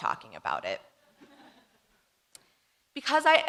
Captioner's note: audience laughing